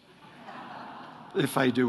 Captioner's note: audience chuckles